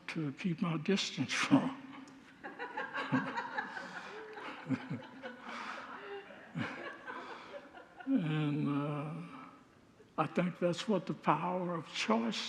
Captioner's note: congregants laugh